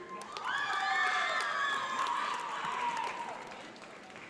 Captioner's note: audience applauds